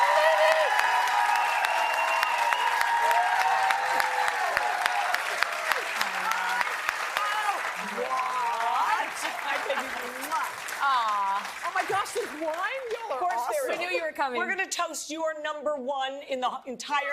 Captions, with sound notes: FROM THE CONTROL ROOM. >> I THOUGHT I SAW -- >> I THOUGHT I SAW -- >> A SPECIAL VISITOR HAS JUST >> A SPECIAL VISITOR HAS JUST ARRIVED. ARRIVED. HERE SHE IS. [ CHEERS AND APPLAUSE ]